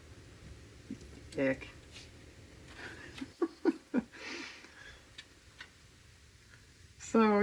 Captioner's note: laughs